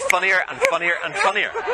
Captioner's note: laughter